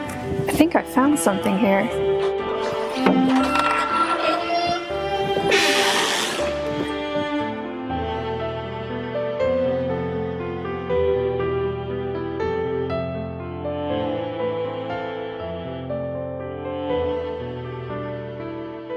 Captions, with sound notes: I think I found something here. [door squeaking]